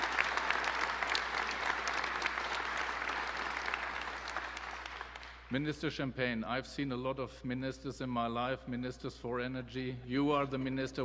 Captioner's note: applause